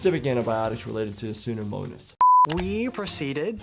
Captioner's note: screen beeping